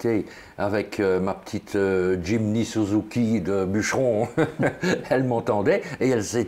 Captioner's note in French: rire